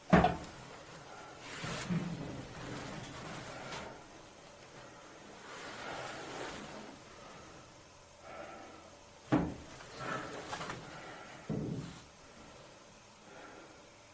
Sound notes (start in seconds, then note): none